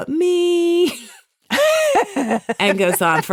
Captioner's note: laughs